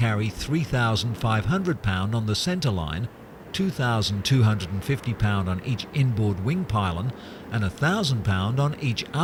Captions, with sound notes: in simulated extreme weather conditions. [PLANE NOISE]